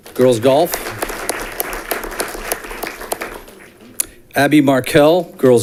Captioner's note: audience clapping